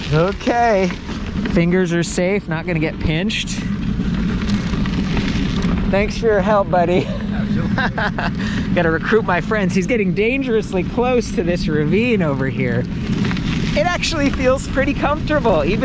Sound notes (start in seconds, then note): 7.0 laughing